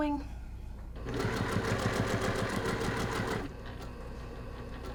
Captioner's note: machine whirring